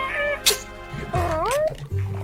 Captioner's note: stabbing